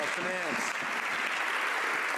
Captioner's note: some Applause